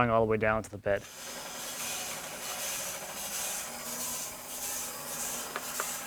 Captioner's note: sawing machine whirring